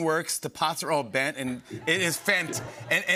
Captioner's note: laughter